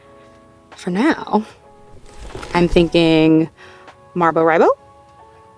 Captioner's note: ornery tone